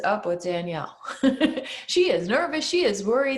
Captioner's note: chuckles